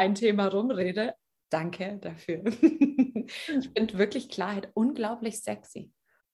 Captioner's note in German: lachen